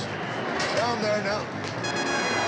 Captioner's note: chattering